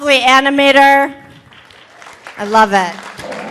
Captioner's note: audience applauding